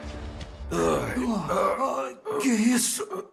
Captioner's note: both groaning